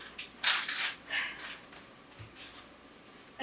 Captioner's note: sigh